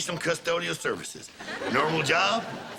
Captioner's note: audience laughter